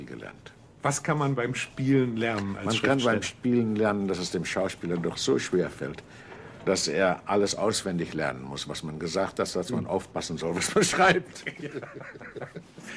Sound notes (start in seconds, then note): 10.6 laughs